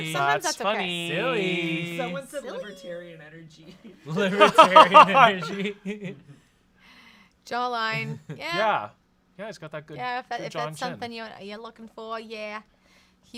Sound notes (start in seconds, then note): 4.1 laughs